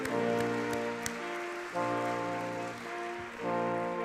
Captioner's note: all clapping